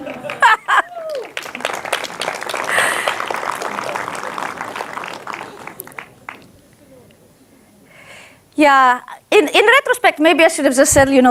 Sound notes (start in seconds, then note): 0.2 she laughs; 1.5 audience applauds; 1.5 audience laughs